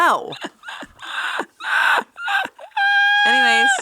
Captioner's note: laughing